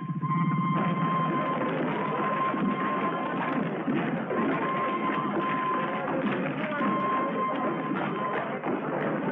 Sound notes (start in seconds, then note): 4.4 whistle trills